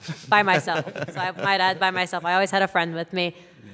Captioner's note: laughter